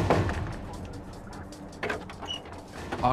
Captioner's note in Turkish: Kapı tıklama sesi; Kapı açılma sesi